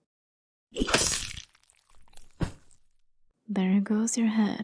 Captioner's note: swing of a blade followed by squelch and thud